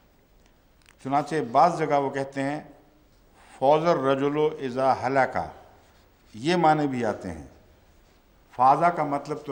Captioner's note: Arabic